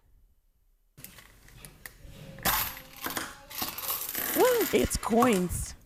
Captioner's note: coins rattling